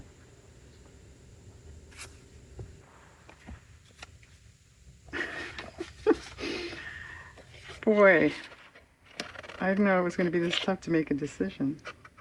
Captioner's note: laughs